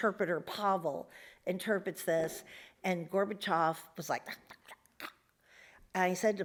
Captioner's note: mutters bitterly